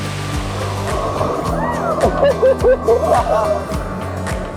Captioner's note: cheerful music; group laughing; cheering and laughing